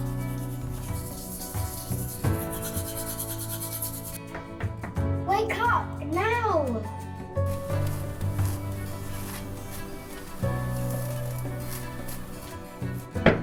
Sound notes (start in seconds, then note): 0.2 gentle orchestral music continues; 4.3 hand knocking on door; 8.5 gentle orchestral music continues